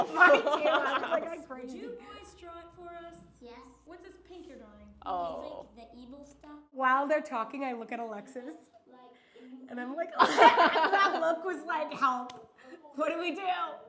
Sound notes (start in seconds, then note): 10.2 laughing